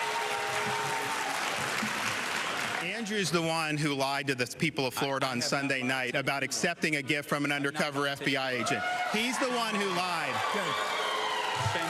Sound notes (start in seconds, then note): 2.2 applause